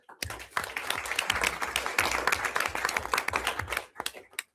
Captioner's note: everyone applauds